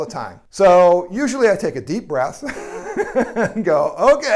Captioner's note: laughs